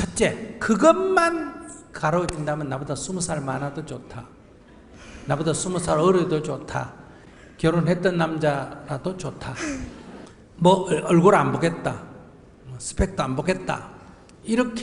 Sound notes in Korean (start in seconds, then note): 9.5 질문자 웃음